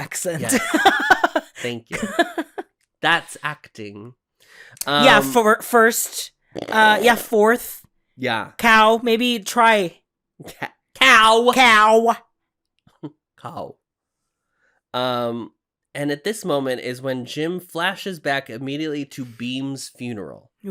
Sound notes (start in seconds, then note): 0.4 laughs; 6.5 snorts